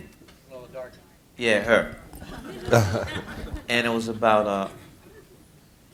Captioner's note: laughter